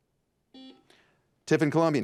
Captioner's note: buzzer buzzes